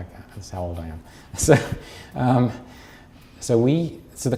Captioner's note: chuckles